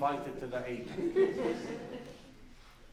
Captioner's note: laughs